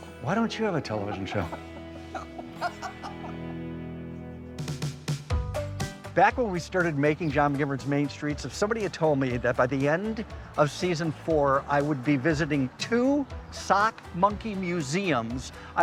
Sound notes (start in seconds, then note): 2.4 both laughing; 5.0 upbeat music